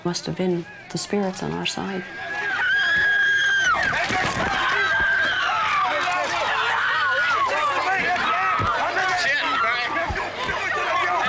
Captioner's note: screaming